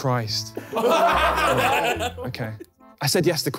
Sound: laughing

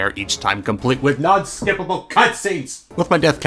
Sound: the distinct sound of my chair making contact with desk

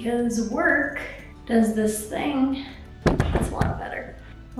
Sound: camera moving

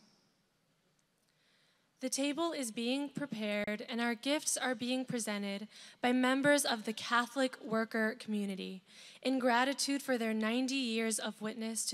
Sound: speaking non-english

